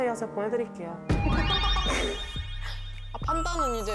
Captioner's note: hair-growing sound effect